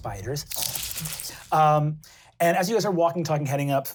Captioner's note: skittering